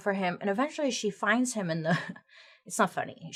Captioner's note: chuckles